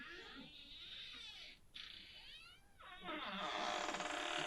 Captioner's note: door creaks